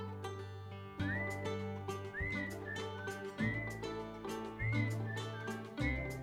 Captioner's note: whistling